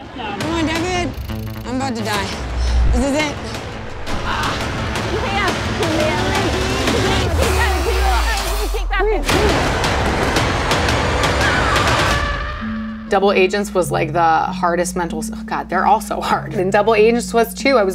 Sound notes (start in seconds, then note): 4.3 grunting; 7.4 buzzer buzzing; 9.8 intense music